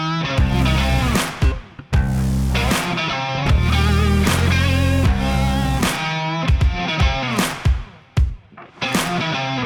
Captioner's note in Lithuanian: Plojimai; Plojimai